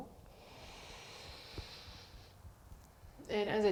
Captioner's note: breathing